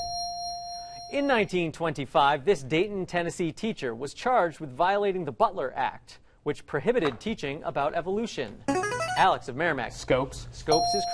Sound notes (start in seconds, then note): 8.7 ringer